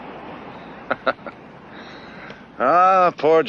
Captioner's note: Jerry laughs